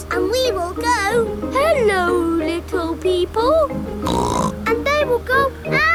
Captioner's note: snorts